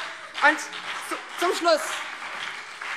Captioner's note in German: Beifall BÜNDNIS 90/DIE GRÜNEN und CDU